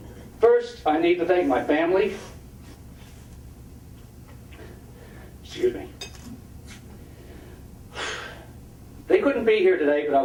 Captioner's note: big breathe